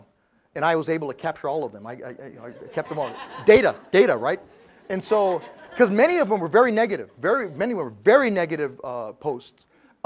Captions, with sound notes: And I was able to capture all of them. I kept them all. >> [LAUGH] >> Data, right? Cuz many of them were very negative. Very negative posts.